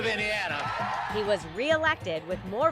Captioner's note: crowd applauding; crowd cheering